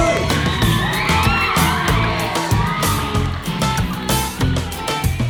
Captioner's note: crowd cheers; upbeat music